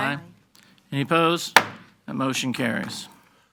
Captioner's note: gavel banging